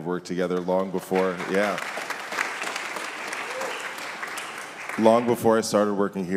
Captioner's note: audience applauding